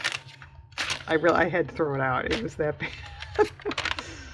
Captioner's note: laughs